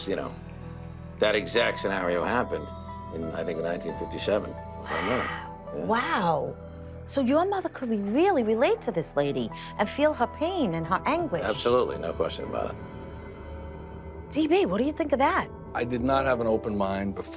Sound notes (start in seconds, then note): 3.5 whispers